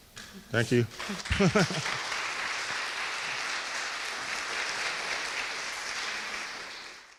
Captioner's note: audience claps; laughs